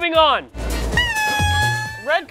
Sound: horn blowing

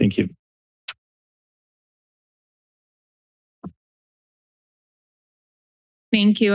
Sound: silence

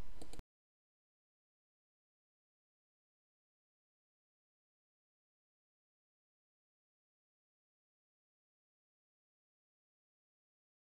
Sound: silence

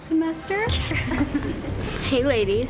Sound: group giggling

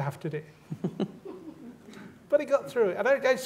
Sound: laughter

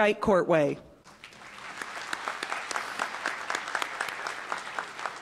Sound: applause

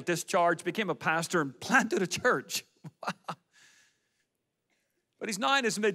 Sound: laughs

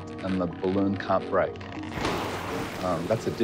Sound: stretching rubber, water balloon popping

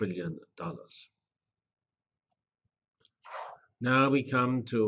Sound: pause

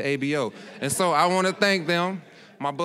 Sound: audience laughing

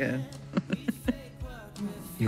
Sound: laughs

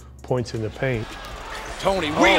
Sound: crowd cheering

